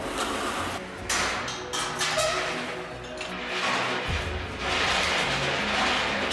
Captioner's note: cable grazing pulley; metal clanging